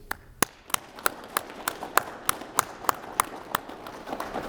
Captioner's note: applause